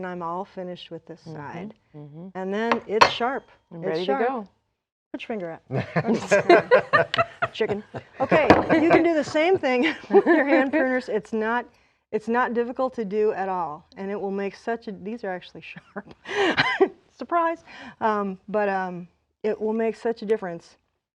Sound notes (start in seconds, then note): 9.7 laughing